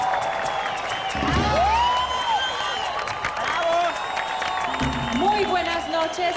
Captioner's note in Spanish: Aplausos y exclamaciones